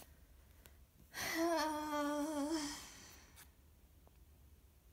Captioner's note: inhales